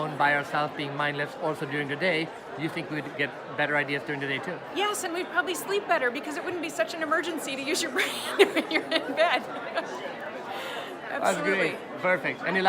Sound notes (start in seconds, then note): 7.9 laughs